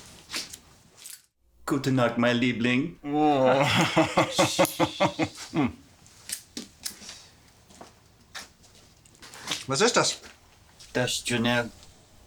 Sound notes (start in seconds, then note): 1.7 soldier speaking German; 3.0 Koch laughing